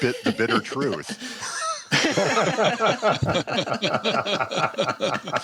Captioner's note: laughter